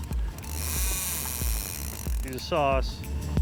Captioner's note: fishing line whirring